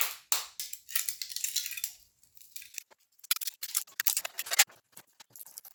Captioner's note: scrabbling